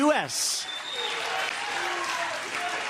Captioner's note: applause